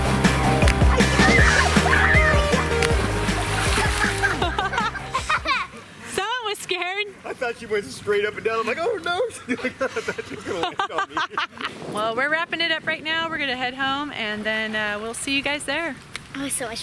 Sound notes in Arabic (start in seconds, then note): 4.3 يضحك; 8.5 يضحك